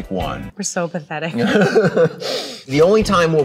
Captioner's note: Adam laughs